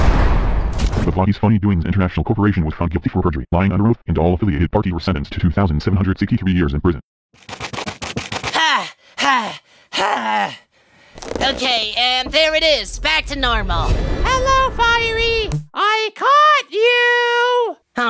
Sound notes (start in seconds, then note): 0.0 loud slam; 7.4 running noises; 13.1 loud bang